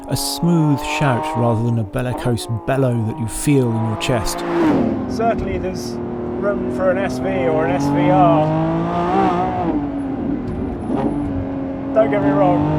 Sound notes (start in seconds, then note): 9.0 car engine roaring